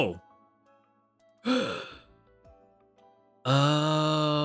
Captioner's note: gasps